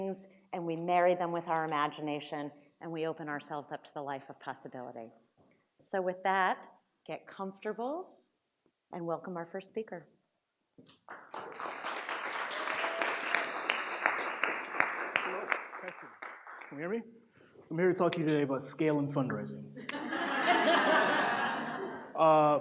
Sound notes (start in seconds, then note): 11.0 audience applauds; 19.8 audience laughs